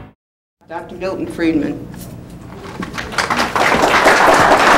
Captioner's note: applause